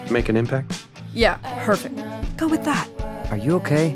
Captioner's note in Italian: sarcasmo